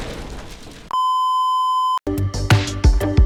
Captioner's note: explosion; beep; intro Music